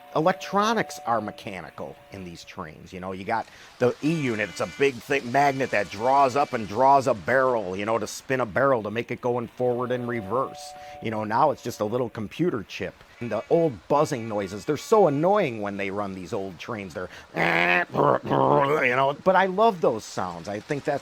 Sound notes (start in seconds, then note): 17.8 imitates old train noises